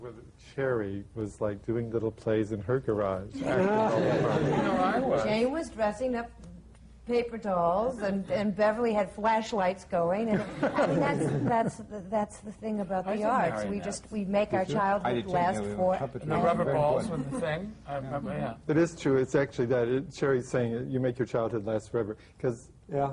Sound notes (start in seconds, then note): 10.3 laughter